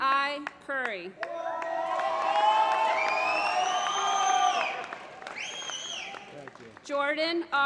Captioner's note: applause